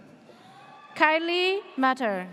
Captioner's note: audience cheers